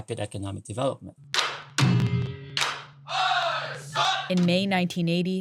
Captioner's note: soundbite of archived recording; chanting in Korean